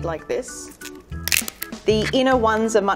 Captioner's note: celery cracking open